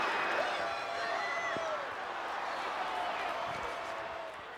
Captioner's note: crowd cheering